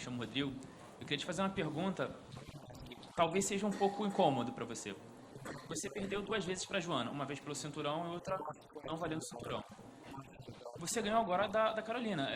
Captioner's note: speaking foreign language